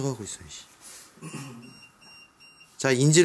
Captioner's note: beeping